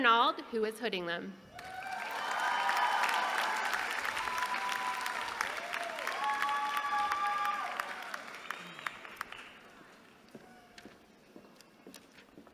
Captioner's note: applause